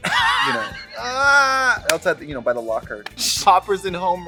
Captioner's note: Katya laughs; moans